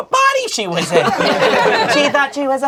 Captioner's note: crowd laughing